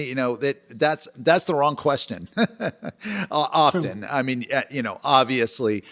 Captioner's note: laughs